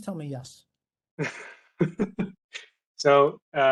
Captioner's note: laughter